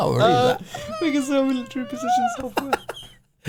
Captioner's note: laughing